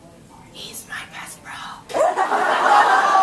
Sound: whispers

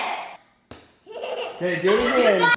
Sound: thuds; giggles

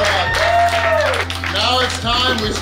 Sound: cheering and clapping

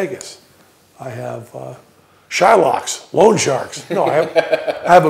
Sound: laughter

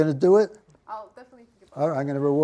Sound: voiceover

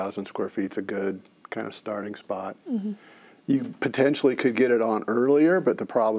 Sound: none

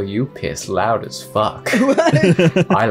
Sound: laugh

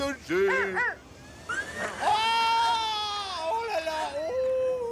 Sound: screaming; laughing

